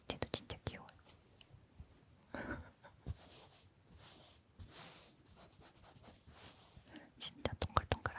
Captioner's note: I'll let you hear the petting sound